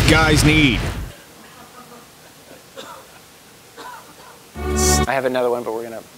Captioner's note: cough